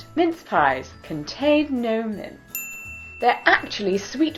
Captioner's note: ding